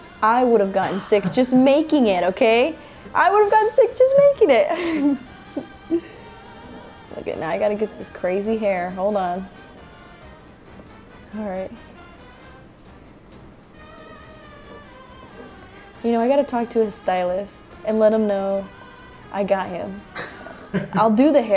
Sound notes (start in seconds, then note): 6.4 laughs; 20.1 laughs